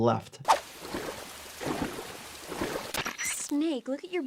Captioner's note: water splashes